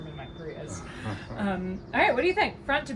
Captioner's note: laughs